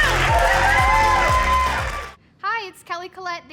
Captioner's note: audience cheering; upbeat music